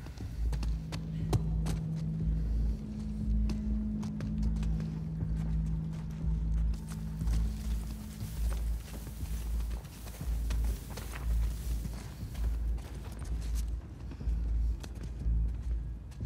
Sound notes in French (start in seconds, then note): none